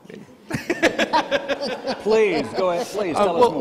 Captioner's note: laughing